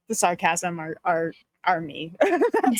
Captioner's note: laughing